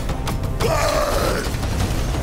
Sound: roar

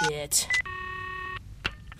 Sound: dialtone

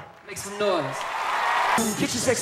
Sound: crowd cheering

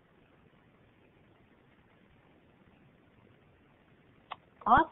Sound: silence

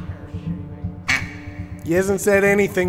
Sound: duck quacks

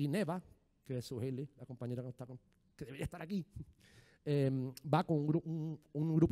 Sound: speaking in foreign language

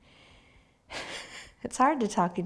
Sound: laughs

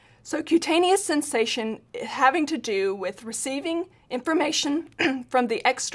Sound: cough

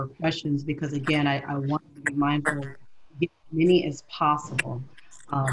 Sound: audio glitch

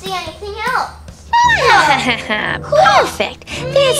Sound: laughing

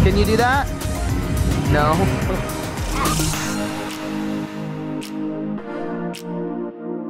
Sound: chuckles

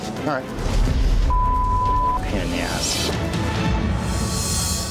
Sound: beep

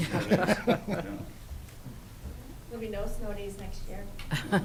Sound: laughing

